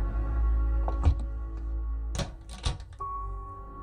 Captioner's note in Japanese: 扉の閉まる音：ガッチャン